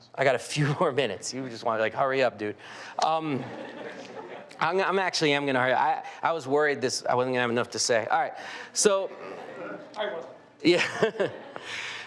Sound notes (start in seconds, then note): 3.2 audience laughing